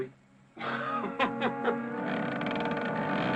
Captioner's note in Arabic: يضحك; صوت طقطقة من باب مفتوح تم سماعها